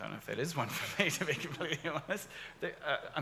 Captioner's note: laughs